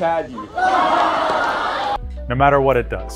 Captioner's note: crowd cheering